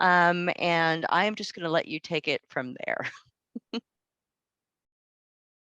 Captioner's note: laughs